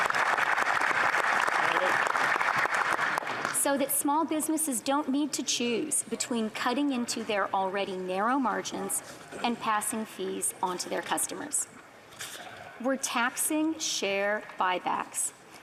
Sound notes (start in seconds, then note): 0.0 applause